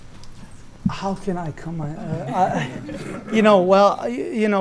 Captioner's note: laughter